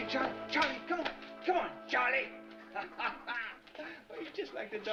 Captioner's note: laughs